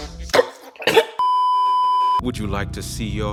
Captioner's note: still slurping; beeeeeeeeeeeep